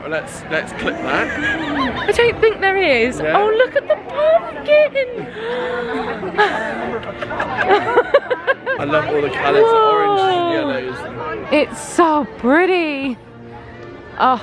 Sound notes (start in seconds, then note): 5.2 gasping; 7.7 laughing